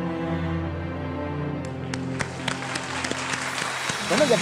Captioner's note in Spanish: Aplausos